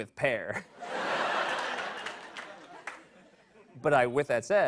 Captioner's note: laughter